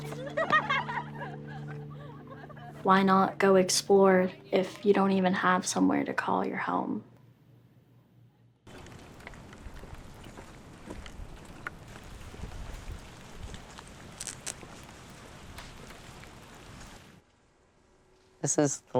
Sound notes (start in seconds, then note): 0.0 girls laughing; 9.0 wind whooshing